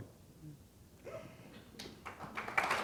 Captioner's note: applause